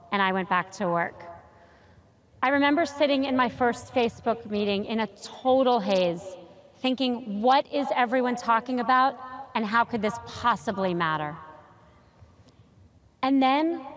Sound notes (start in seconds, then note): none